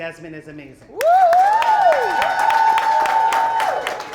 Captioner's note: audience whooping; applause